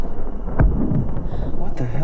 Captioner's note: campfire explodes